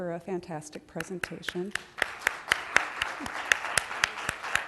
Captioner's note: applause